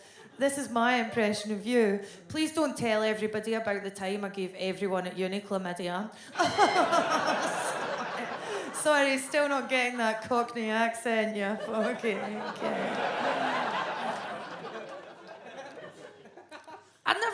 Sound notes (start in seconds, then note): 6.4 fakes laughter; 13.4 audience laughs